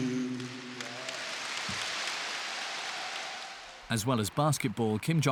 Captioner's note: audience applauds